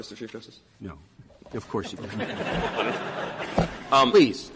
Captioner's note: laughter